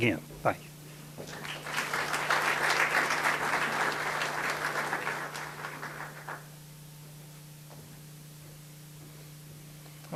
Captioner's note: audience applause